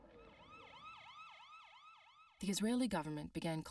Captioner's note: sirens